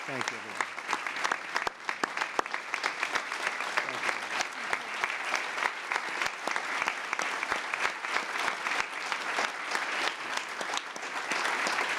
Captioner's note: applause